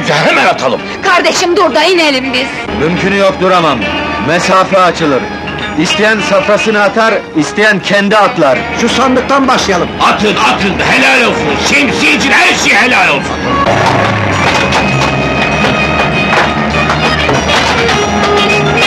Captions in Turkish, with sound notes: Yahu Ziya efendi! Senin birader Yunus efendi, bir milyonluk tahvil almıştı benden. Çoktandır görünmüyor, nerelerde? Gelsin de benden faizini alsın! [Tezahürat devam ediyor]